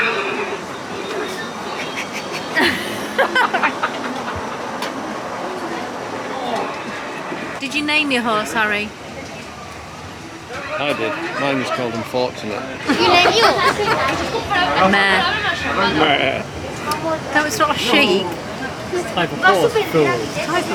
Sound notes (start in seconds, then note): 1.7 embarrassed chuckles; 13.4 laughs